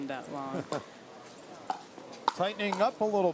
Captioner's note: laughs